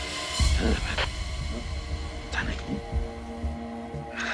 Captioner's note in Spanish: Habla entre dientes